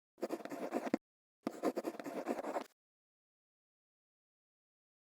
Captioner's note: quill scratching